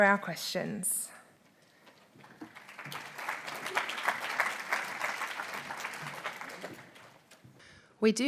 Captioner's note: applause